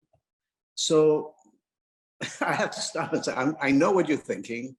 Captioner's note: laughs